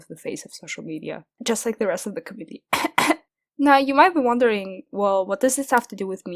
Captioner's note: cough, Cough